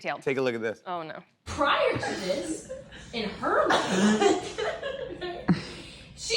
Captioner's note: laughing